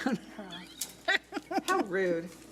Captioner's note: laughs